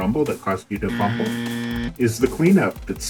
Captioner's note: buzzer noise